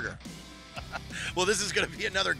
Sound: laughs

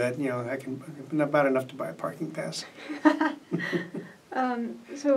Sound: laugh

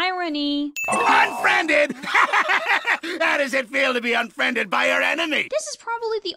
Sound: laugh

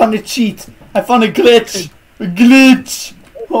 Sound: laughing

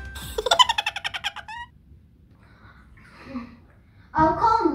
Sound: giggling sound

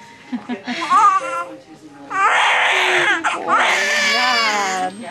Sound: baby crying

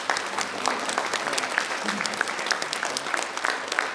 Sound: people clapping

